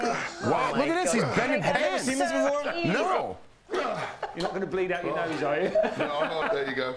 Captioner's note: laughter